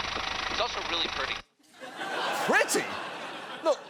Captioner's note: audience laughing